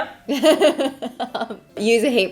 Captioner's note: laughing